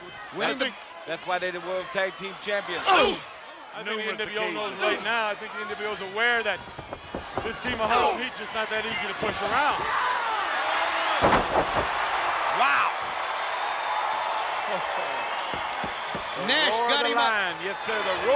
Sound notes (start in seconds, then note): 3.2 Nash grunting; 10.2 Booker yelling; 10.2 crowd cheering; 11.0 heavy thudding; 13.8 crowd cheering; 13.8 referee knocking